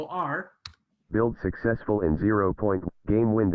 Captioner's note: automated voice